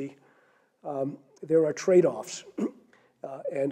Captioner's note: cough